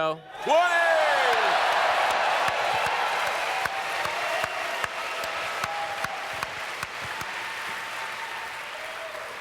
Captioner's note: audience cheers